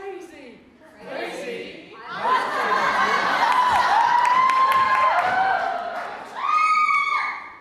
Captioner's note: audience cheers